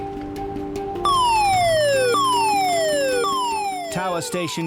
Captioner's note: alarm blaring